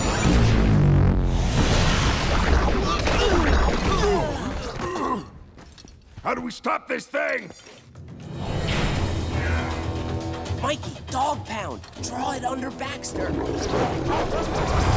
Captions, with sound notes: [groaning] How do we stop this thing? Mikey Dogg Pound. Draw it under Baxter.